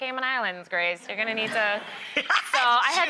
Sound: laughter

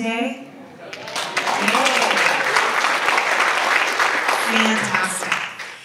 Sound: audience applauds

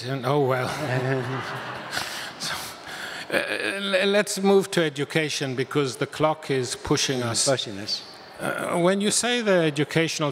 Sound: audience laughs

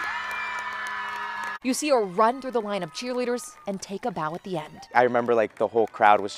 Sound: applae

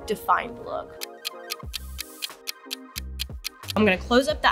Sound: clock ticking

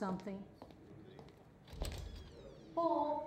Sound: shoes moving across the floor, door opens

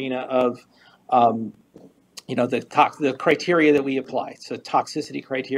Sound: stutters

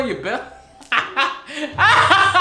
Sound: laughs

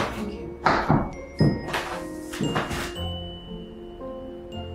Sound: footsteps

